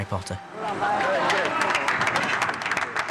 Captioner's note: crew applauding